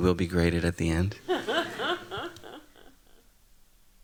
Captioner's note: laughs